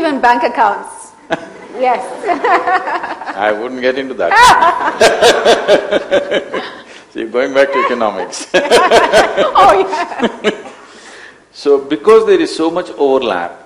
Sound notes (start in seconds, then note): 2.0 laughter; 8.2 laughter